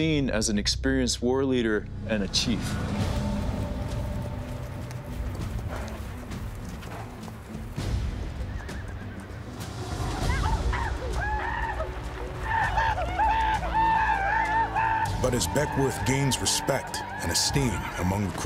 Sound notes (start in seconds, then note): 10.0 horses neigh; 10.2 crow yell, rejoicing